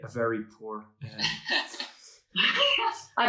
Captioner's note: laughing